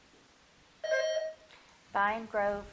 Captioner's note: bell dinging